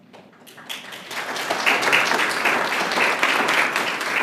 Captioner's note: applause